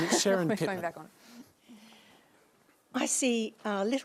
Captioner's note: chuckles